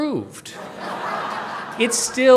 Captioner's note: audience laughing